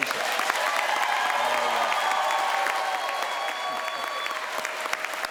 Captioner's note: crowd cheers and applauds